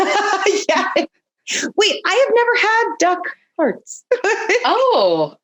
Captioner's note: laughing